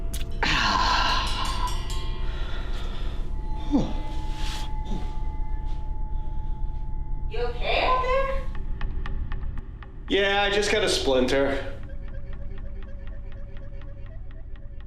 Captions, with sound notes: (Scott groans) You okay out there? - Yeah. I just got a splinter.